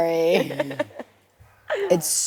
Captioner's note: laughs